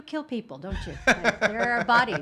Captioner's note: laughing